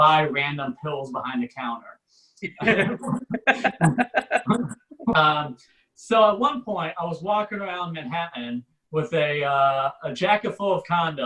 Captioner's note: audience Laughs